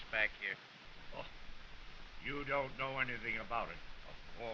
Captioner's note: scoffs